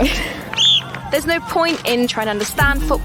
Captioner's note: whistle blowing